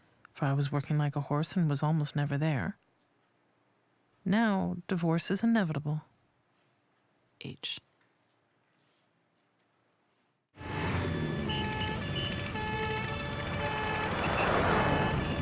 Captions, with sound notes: for I was working like a horse and was almost never there. Now divorce is inevitable. H. -[sirens wailing] -[whistle blowing]